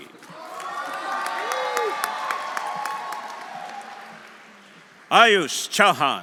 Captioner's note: audience applauding; audience cheering